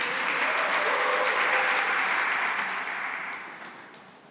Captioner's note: cheering and applause